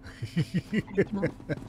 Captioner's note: laughing